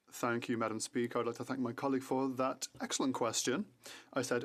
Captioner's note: speaking French